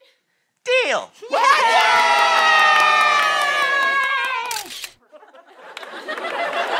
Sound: cheers; applause

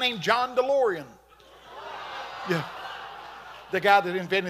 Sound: congregation laughing

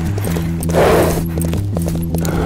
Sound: running hoofsteps; heavy breathing

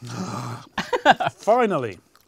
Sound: laughs

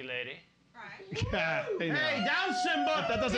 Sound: audience hooting

